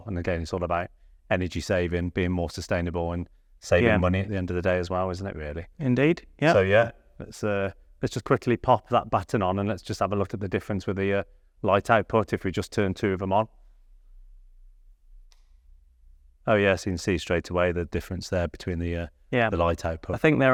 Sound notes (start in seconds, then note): 15.2 switch clicks